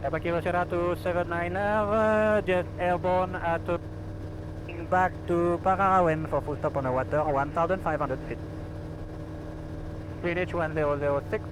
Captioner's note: talking to atc